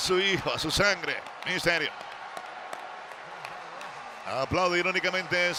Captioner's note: applause